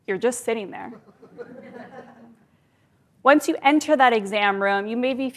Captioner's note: laugh